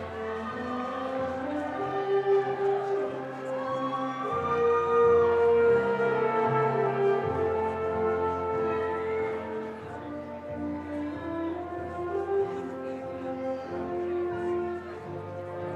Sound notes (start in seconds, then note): 0.9 audience cheering